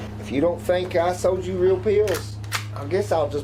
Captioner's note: gun clicks